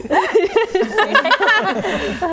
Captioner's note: laughing